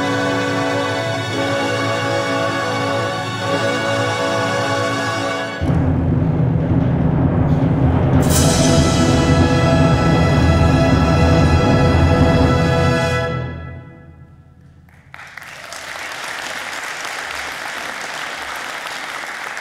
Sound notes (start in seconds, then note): 14.8 audience clapping